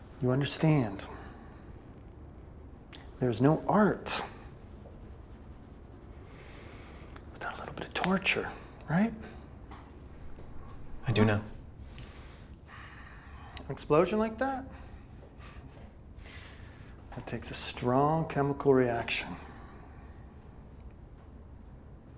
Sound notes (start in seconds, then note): 16.1 chuckles